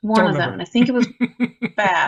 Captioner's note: laughs